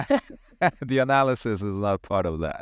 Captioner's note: laugher